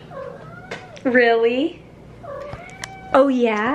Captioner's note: Harry meows yes; Harry meows again